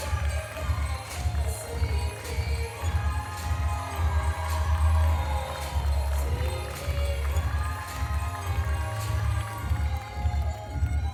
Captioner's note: applause